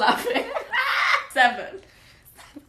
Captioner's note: laughs loudly